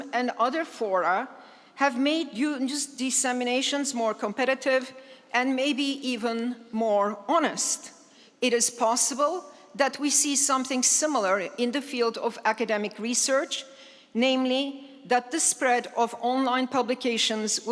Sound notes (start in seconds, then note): none